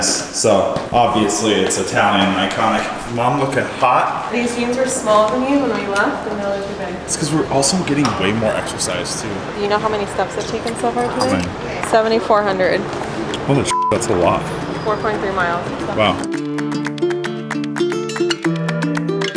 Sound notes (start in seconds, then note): 13.7 beep